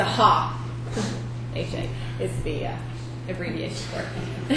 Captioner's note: chuckles